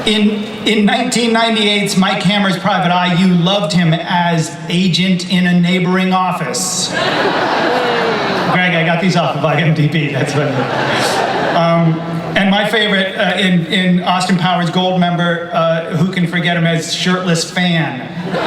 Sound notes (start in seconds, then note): 6.8 audience laughs